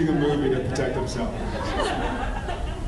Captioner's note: laughs